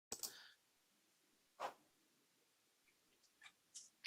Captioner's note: mouse clicks